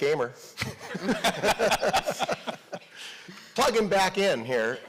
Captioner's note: audience laughing